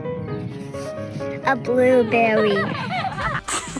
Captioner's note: intriguing music; children laughing